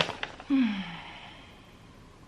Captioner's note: deep sigh